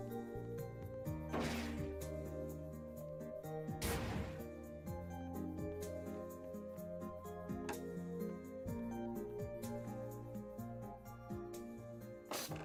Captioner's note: snorts